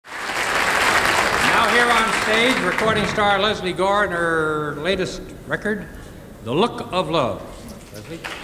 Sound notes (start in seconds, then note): 0.0 audience applauding